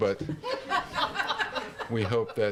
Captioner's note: laughter